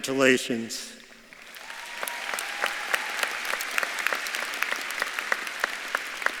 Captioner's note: audience claps and cheers